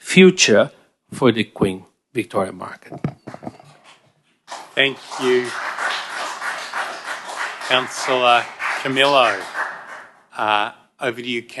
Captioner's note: applause